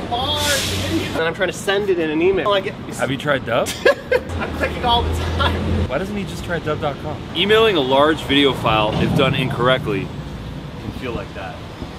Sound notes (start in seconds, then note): 3.6 laughter